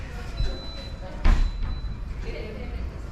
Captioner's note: beeping